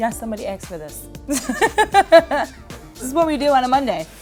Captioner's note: laughs